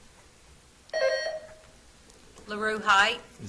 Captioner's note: buzzer trills